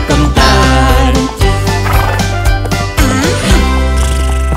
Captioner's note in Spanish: Música alegre; Sonido de relincho; Mugido de vaca